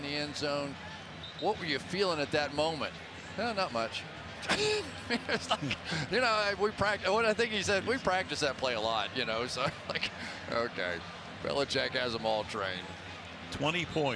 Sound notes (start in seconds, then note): 4.4 laughs